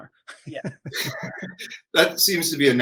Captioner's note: chuckle